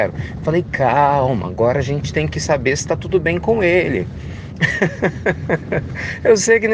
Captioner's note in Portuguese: risadas